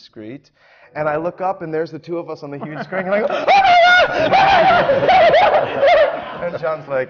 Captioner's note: shrieks